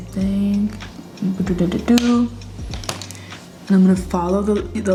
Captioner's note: tiny taps